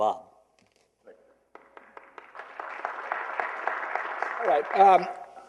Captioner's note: applause